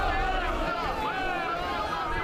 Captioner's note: crowd noise